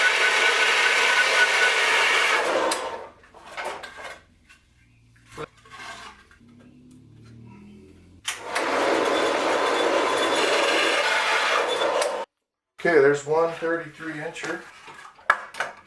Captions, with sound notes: (wood scraping) (wood scraping) Okay, there's one 33-incher.